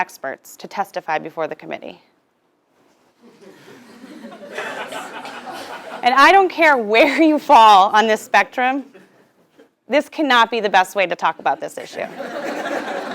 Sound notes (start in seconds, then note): 3.2 laugh